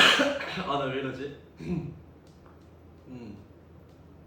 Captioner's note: clears throat